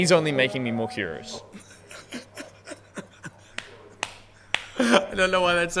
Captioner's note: prolonged laughing